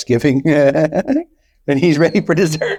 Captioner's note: laughing